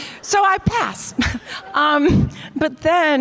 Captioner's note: chuckles